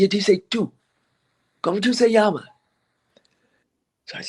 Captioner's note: foreign language